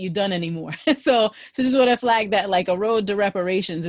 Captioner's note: laughter